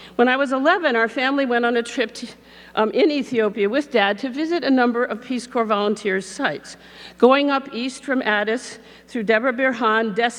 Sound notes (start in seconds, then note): none